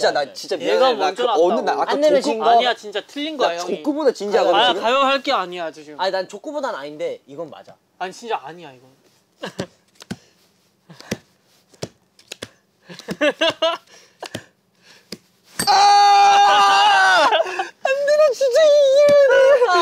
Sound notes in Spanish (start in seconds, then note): 16.4 Ahhhhh